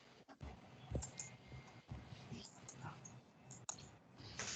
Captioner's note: fingers typing